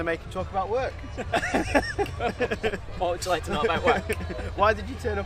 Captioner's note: laughing